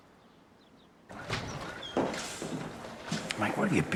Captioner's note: footsteps approach; door opens